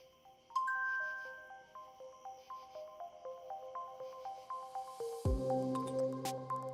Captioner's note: graphics chiming; pensive music